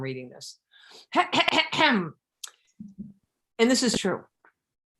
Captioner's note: clears throat emphatically